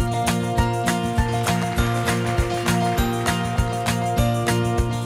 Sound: audience applauds

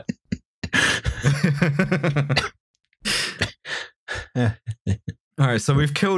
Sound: laughter

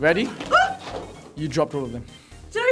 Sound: exclaims

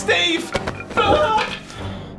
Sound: screams

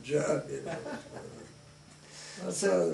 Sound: chuckles

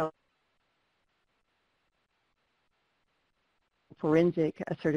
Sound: no audio

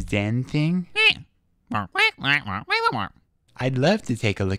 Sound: squawk

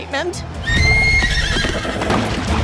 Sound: neighing

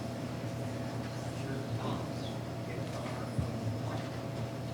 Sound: faintly speaking

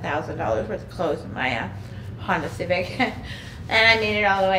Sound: chuckling

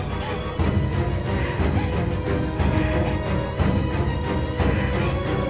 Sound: heavy breathing

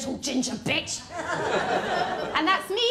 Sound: laughter

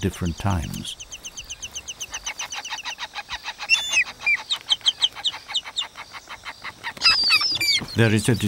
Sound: birds chirping

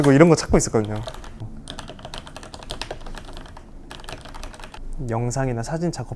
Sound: keyboard ASMR

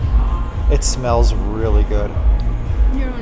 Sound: none

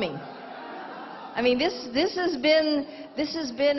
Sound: crowd cheering

